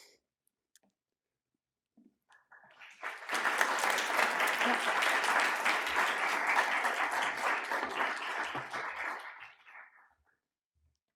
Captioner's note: applause